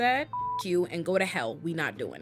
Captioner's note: beep